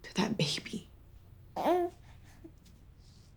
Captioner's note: baby coos